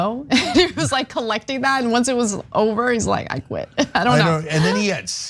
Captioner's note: laugh; laugh